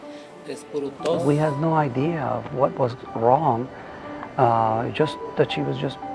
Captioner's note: speaks foreign language; voiceover